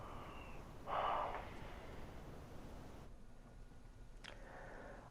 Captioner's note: sighs